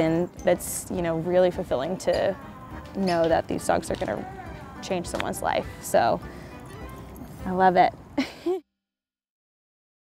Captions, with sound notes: and that's really fulfilling to know that these dogs are gonna change someone's life, so I love it. [giggles]